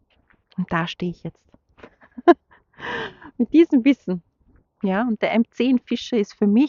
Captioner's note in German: gelächter